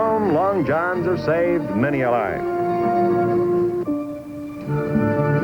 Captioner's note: engines roaring